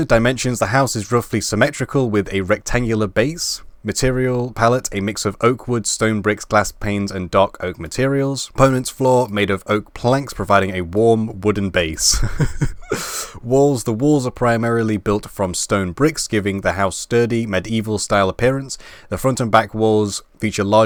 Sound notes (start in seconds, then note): 12.0 laugh